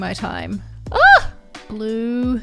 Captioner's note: shouts